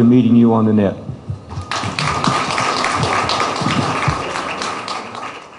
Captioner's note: applause